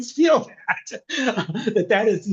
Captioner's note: laughing